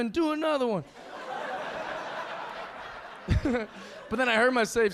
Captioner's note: audience laughing